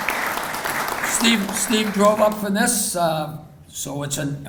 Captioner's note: applauding continues